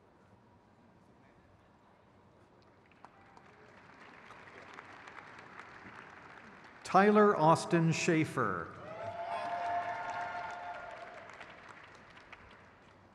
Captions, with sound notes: Kate Maureen Reading. (crowd claps)